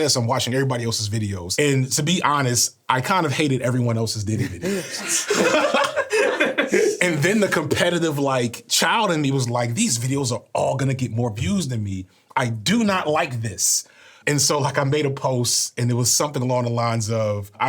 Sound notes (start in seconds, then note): 4.4 everyone laughing